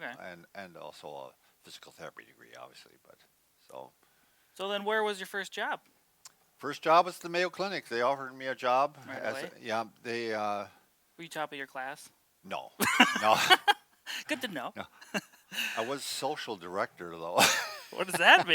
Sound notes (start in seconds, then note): 12.8 both laughs; 15.4 laughs